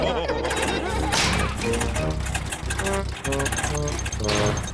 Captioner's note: all laugh; engine sputters